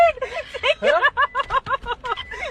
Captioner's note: laughing